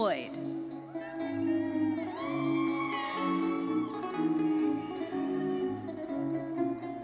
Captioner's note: audience cheering and applauding